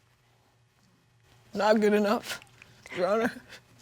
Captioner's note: weaping tone